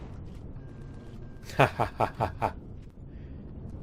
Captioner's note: turrets firing; laughs